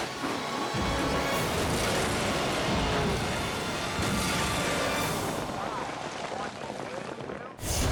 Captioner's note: dramatic music continues; boat crunching; graphic booming